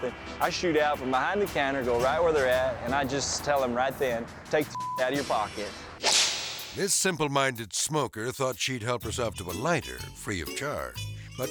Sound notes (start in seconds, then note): 4.7 beep; 5.9 air swoosh